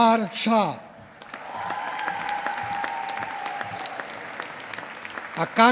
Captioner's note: applause